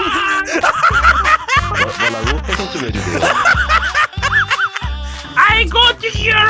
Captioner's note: laughs in Mouse